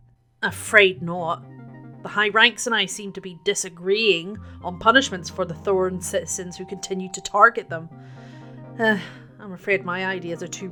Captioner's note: sigh